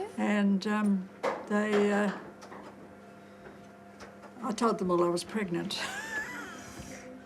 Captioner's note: laughs